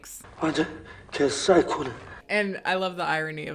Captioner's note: speaking in foreign language